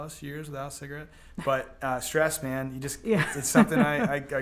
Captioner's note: laughs